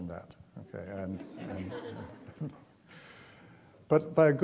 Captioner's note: chuckling